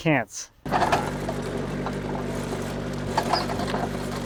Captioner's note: engine rumbling